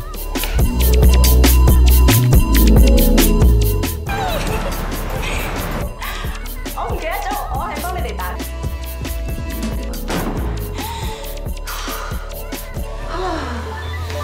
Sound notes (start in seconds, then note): 4.1 giggle; 9.4 door slam; 11.1 annoyed sigh; 13.0 sigh